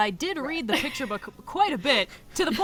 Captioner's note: laughs